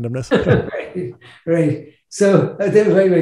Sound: laughs

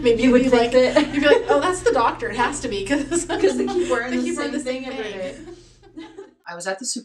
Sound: laughs

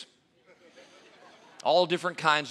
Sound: audience laughing

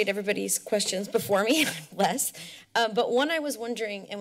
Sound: chuckles

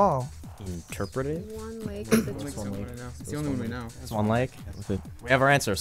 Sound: wispering

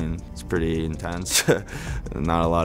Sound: laughs

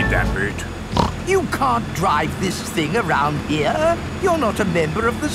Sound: snorts

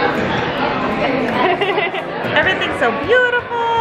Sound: laughs

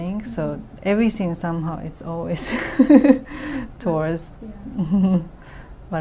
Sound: laughs

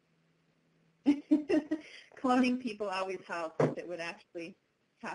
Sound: laughing

